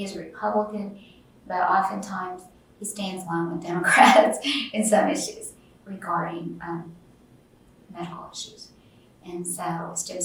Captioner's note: laughs